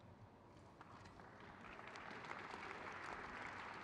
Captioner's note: crowd cheers